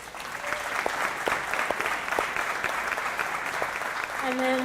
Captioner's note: applause